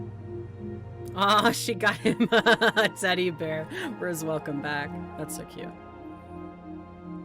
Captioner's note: laughs